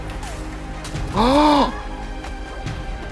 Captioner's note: Xing screams; pants; epic music